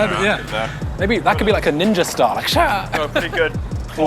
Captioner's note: laughs